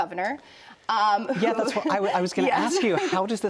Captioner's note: laughter